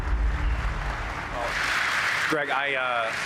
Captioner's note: audience applauding